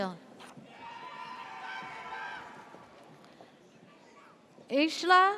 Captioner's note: audience cheers